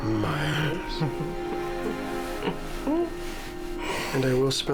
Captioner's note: chuckles